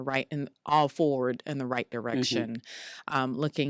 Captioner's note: mmhmms